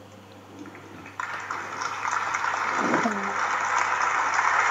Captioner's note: applause